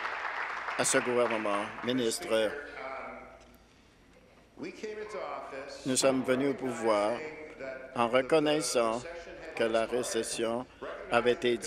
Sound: applause

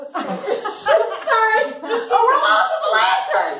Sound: all laughing

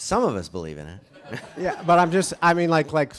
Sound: audience chuckles

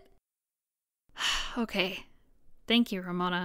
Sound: sighs

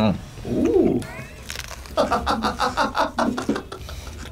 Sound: laughs

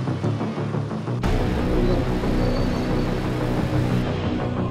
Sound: machinery squeaks

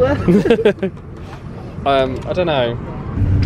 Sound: laughter

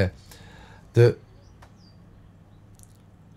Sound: silence with birds cheeping

